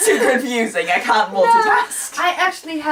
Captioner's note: laugh